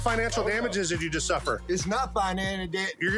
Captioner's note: stammering